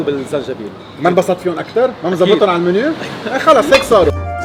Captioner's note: laughing